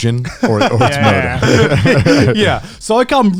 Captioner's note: laughs